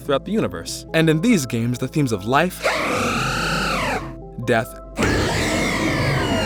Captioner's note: Eternal Flower Floette cry; Xerneas cry; Yveltal cry